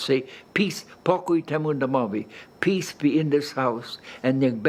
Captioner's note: speaking Polish